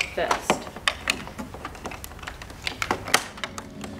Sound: Legos clinking; soft inspirational music

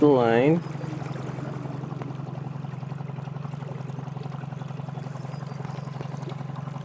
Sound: motor softly rustling; water softly splashing

